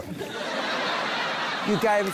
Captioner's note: laughter